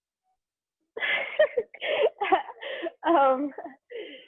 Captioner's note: laughing